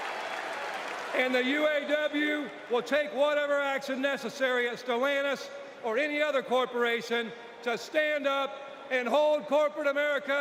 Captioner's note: applause